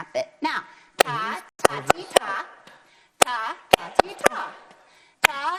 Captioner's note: clapping to the rhythm